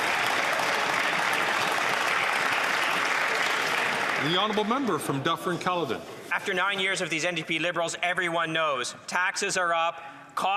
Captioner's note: some Applause